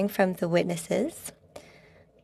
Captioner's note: speaking French